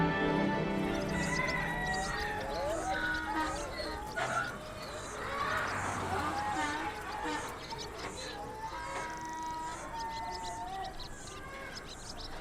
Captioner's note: crowing, braying